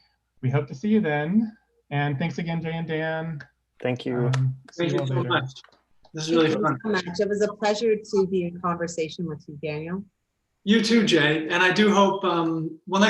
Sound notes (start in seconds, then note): 3.9 claps hands